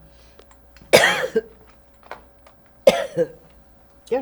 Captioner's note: coughing